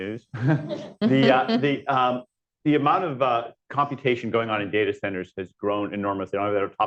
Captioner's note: laughter